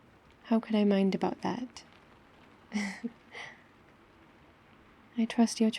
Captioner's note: laughs